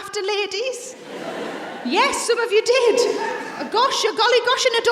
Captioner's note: some audience members shout